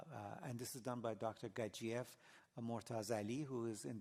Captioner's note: non-english